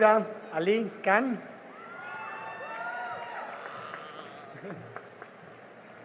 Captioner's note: cheering and applause